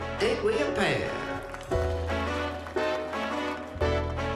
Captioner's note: light applause; jazzy music playing